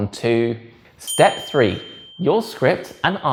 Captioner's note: bell dings